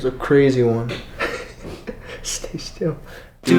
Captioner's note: light giggling